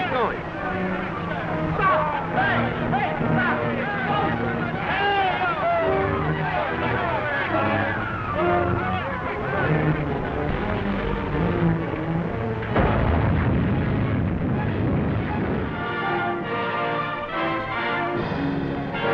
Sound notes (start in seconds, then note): 7.0 men exclaiming; 12.7 explosion booms; 16.1 dramatic music